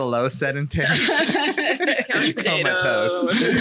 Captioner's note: all laugh